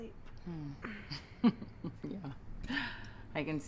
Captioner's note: giggling